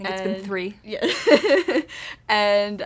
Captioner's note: laughter